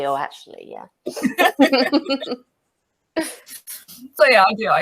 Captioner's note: laugh